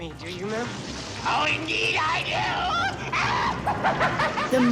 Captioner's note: laughing